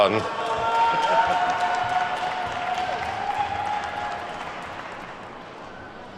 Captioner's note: attendees whooping and clapping